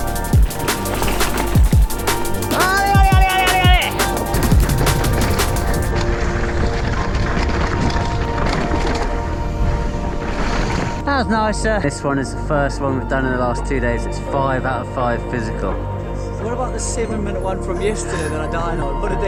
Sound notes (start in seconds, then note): 2.8 shouting; 5.6 upbeat music